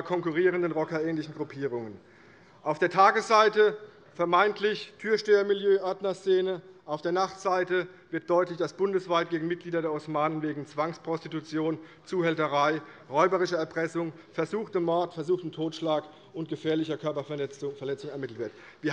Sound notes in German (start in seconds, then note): none